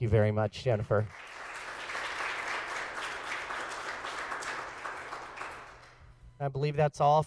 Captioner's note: applause